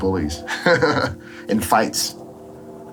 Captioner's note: laughs